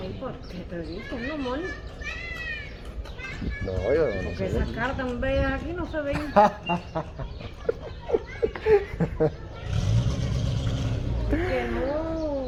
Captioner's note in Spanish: risas